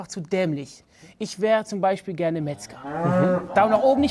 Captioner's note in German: Lautes Muhen